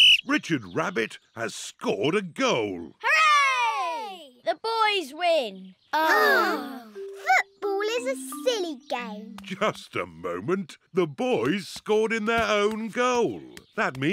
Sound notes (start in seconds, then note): 6.0 all sigh